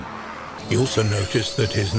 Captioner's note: equipment screeching